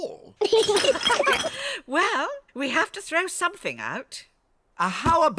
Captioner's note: all laugh